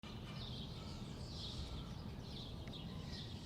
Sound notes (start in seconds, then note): 0.0 birds chirping